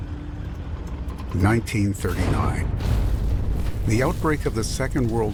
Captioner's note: weapons blast